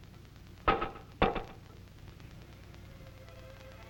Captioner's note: taps from upstairs